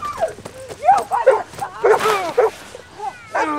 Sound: screaming at boy; Owen barking

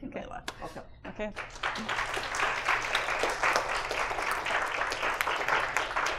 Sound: applause

